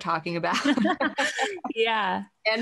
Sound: both laughing

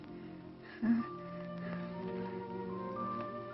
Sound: giggling

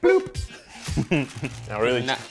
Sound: laughs

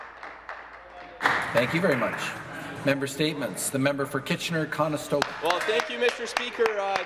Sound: some Applause

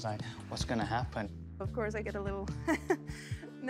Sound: chuckles nervously

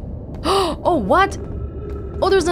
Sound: gasp

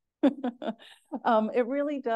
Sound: chuckles

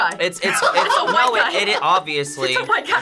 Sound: stuttering

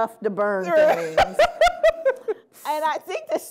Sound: laughter

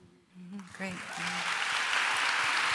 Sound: applause

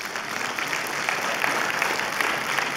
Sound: applause

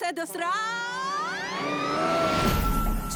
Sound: screams; horn blares

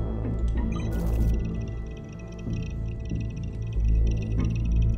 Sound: machine beeping

